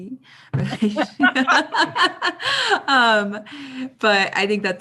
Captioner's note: laughing